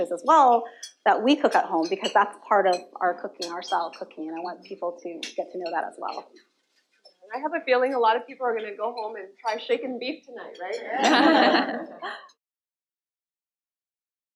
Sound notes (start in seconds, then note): 11.0 laughter